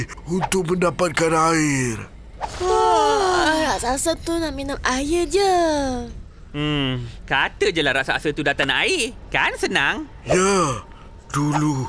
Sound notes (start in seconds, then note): 2.6 yawn